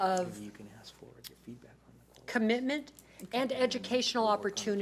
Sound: speaks faintly

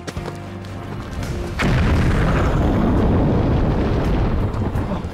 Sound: distant explosion

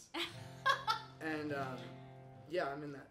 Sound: chuckles

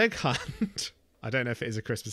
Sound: laughes

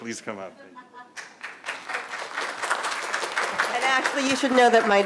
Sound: audience applauds

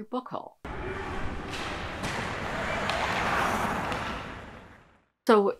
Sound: skating on ice and shouting

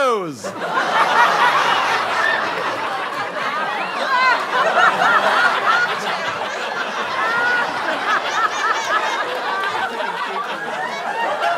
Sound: audience laughter

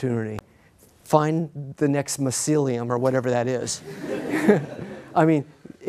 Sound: laughter

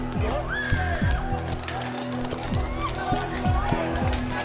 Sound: screaming

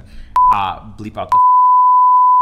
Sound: beep

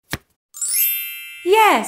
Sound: the sound of a card being turned over can be heard; the sound of stars can be heard

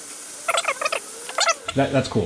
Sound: tape fast-forwarding

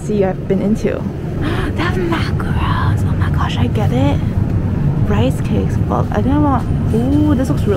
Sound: gasps

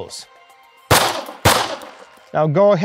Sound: gunfire popping

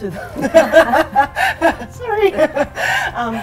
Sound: laughter

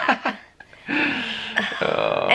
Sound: chuckling

